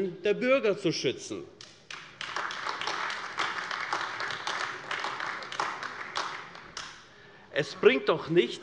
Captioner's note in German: Beifall AfD